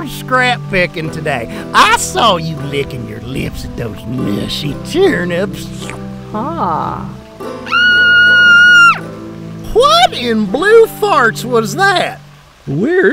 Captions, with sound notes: scrap picking today. I saw you licking your lips at those mushy turnips. - Ha. (crow screeches) - What in blue farts was that?